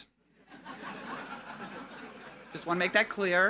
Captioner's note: audience laughing